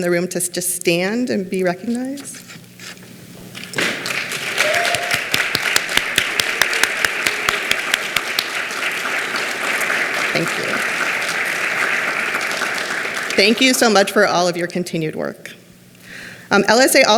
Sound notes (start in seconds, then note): 3.8 clapping; 12.0 clapping cont